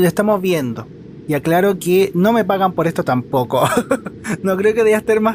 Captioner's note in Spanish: risas